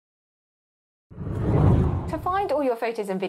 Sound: whooshing

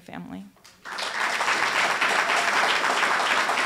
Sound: applause

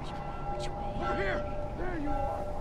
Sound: bell ringing

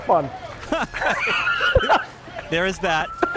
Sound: laughter

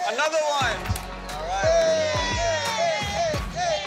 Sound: friends cheering

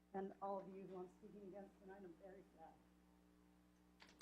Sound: clapping

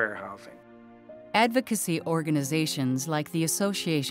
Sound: voiceover

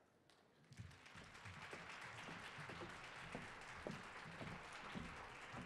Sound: audience applauding

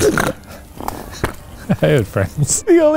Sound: snorts

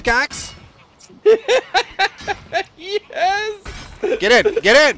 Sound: laughter

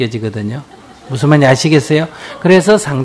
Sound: audience Laughter

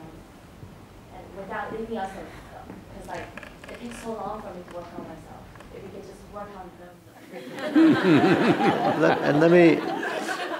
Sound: laughter

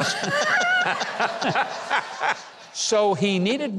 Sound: everyone laughing

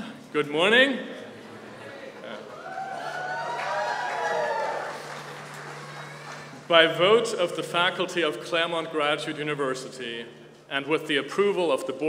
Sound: applause

